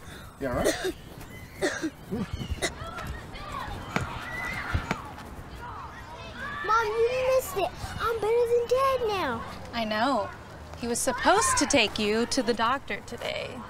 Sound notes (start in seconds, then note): 0.0 Sean coughing; 3.7 ball thuds